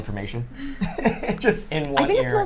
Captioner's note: laughs